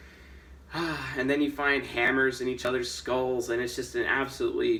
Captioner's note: sighs